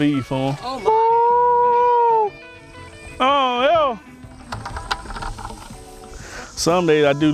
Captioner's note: howling